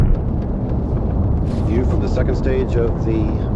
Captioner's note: rocket engine roaring